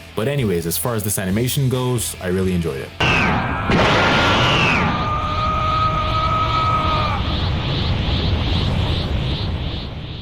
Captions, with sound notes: But anyways, as far as this animation goes, I really enjoyed it. [Yelling]